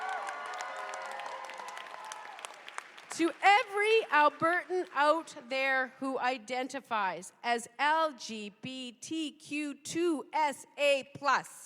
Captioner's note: cheers and applause